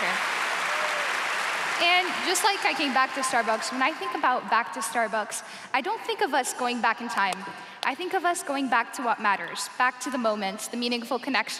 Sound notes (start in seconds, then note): 0.0 cheers and applause